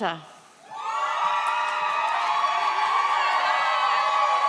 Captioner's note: audience cheers